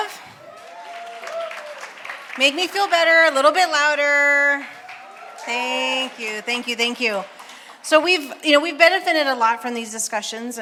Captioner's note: applause